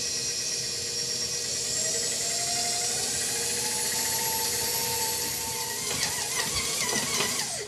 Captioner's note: mixer whirring